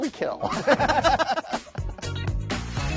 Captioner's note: laughter